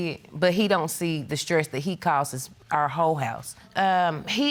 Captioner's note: none